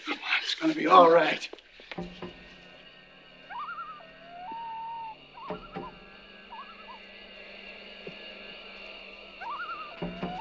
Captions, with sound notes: Come on, it's gonna be all right. (bird warbling) (dramatic music) (insects chirping)